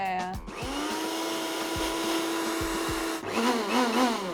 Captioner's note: food processor processing; food processor processing - remix